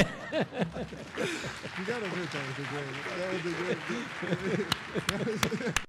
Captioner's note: laughter; applause